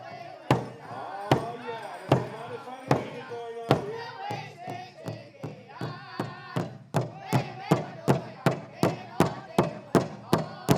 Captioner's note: chanting